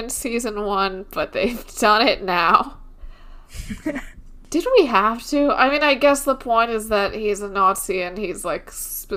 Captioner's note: laughs